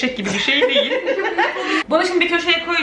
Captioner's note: laughing